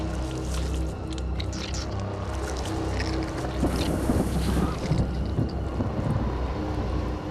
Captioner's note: squelching continues